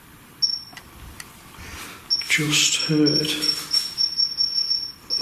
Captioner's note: beeping